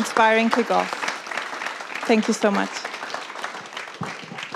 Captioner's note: applause